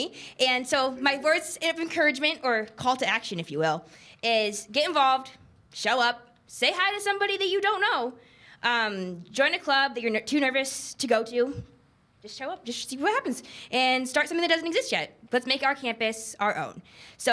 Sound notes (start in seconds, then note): none